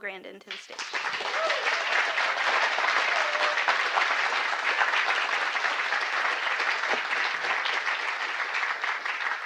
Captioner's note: applause